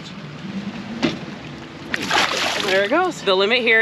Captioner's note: fish splashing